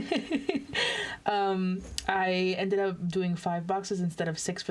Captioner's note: laughs